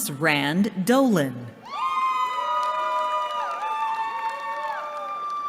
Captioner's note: cheering